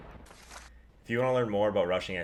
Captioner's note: lightening and thunder; paper ripping